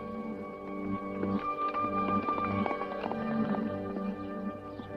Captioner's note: hooves clop